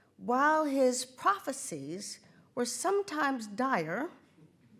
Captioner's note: none